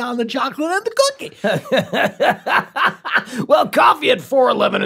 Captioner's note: Glenn laughs